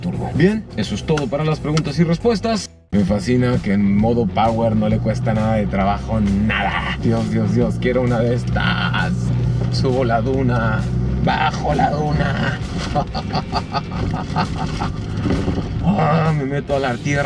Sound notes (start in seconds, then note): 12.8 laughter